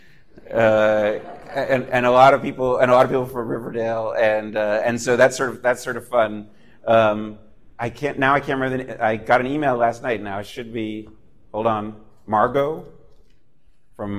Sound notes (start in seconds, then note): 3.3 laughter